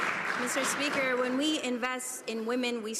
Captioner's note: some Applause